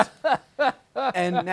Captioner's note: laughs